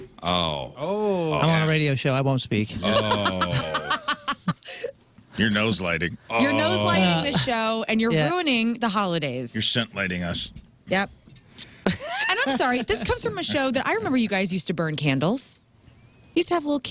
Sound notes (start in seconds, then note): 11.8 laughing